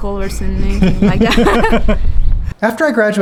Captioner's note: laughing